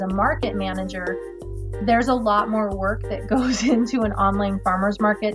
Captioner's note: chuckles